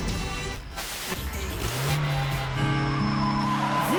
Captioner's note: radio channels cycling